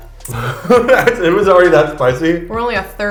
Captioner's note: laughs